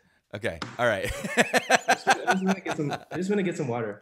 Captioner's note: laughing